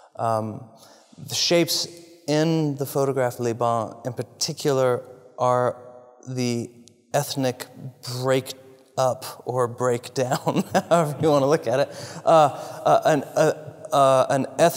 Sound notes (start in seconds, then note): 10.5 laugh